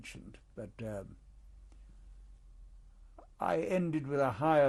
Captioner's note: pauses for 3 seconds